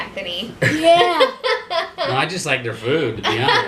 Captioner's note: laughing